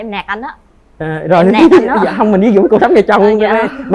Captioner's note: laughter